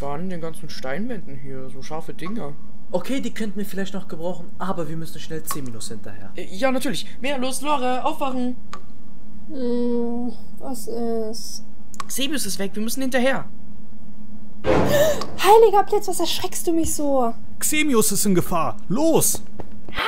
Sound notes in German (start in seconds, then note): 14.6 Schockierendes Geräusch